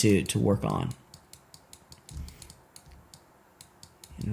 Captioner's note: typing